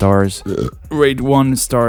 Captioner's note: burp